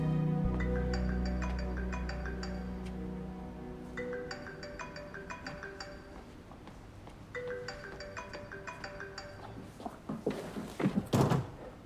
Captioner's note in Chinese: 來電鈴聲